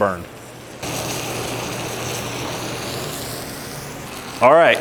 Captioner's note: sizzling